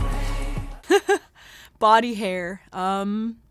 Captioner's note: chuckles